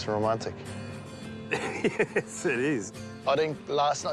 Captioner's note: laughs